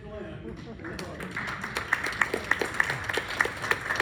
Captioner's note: applause